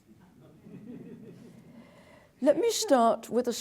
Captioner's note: laughter